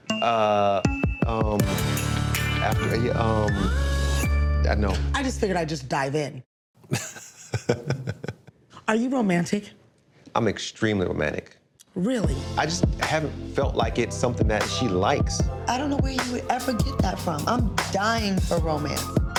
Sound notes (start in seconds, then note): 1.0 tense hip-hop music; 6.9 laughs; 12.3 warm smooth music